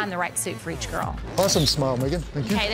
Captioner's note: camera snaps